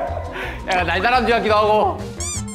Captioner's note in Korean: ㅋㅋ